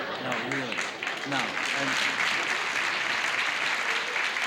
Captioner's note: applause